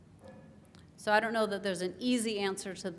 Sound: none

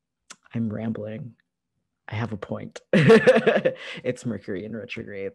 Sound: laughter

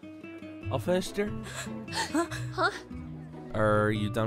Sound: gasp

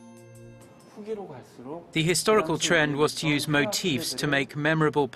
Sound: korean

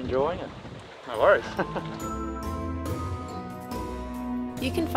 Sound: chuckles

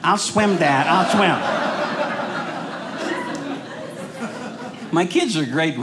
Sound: audience laughing

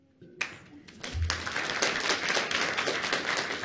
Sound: applause

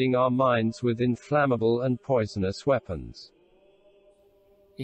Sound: voice reads

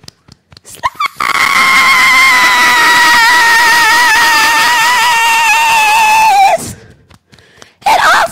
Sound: beating Chest

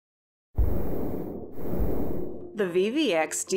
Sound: whoosh

